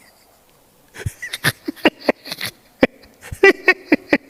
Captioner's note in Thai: เสียงหัวเราะ